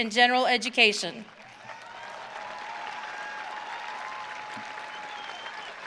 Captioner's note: audience cheering